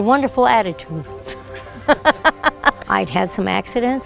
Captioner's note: laughs